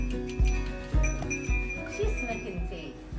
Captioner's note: sheep's bell ringing